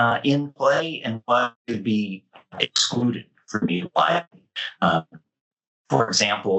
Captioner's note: mic cutting